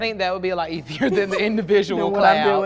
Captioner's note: laughs